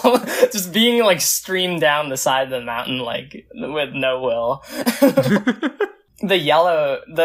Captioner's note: both laugh; both laugh